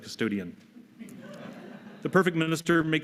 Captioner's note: laughter